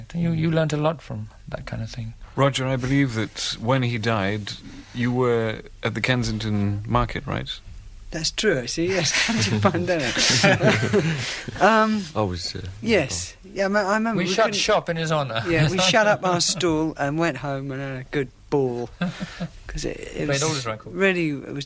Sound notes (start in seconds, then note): 9.0 laughter